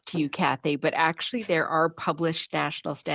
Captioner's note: speaking French